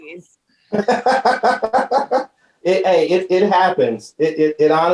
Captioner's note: laughing